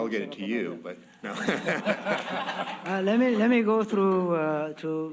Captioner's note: laughter